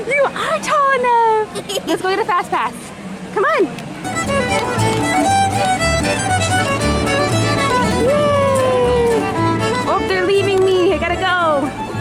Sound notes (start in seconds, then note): 1.8 laughs; 3.8 folksy string music